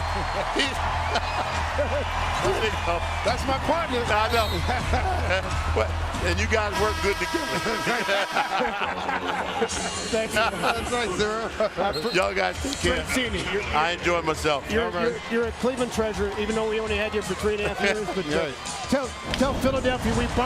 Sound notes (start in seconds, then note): 5.4 cheers and applause; 7.8 laughing